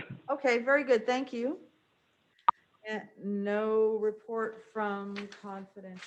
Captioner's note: pop sound